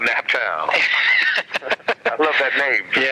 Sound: laughs

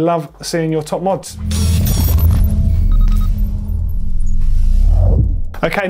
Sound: electronic beeping

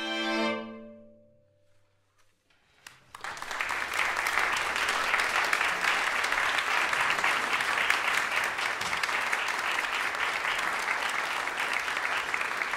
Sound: applause

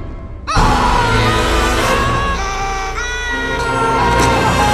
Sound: everyone screaming

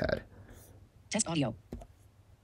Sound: computer Voice

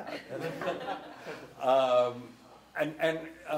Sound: laughing

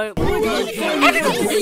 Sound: group complaining

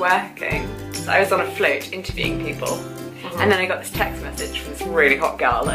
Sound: voice-over

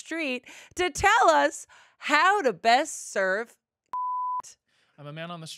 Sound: beep

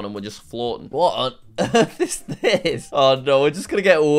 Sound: laughs

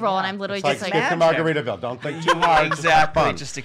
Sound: laughs

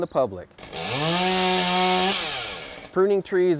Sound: chainsaw whirring

